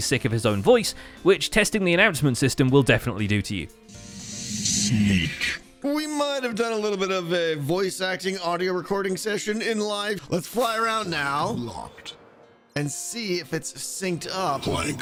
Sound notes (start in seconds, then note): 3.9 distorted voice on disc